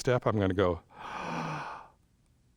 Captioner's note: inhales